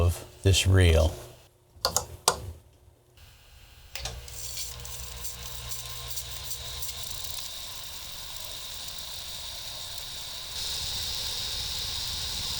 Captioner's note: tape rewinding